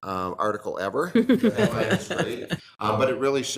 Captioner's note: attendees laughing